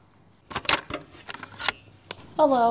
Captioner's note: tape recorder play sound